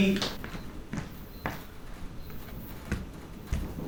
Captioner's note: footsteps